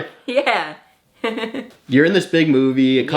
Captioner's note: laughs